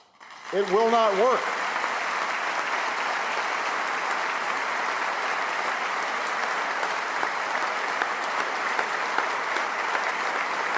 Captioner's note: applause